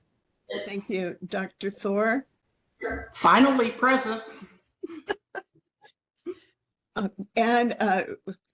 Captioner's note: laughing